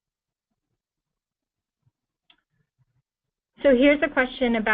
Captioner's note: pause